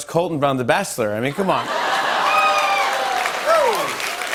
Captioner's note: cheers and applause